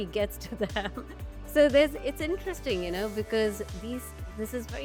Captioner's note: laughs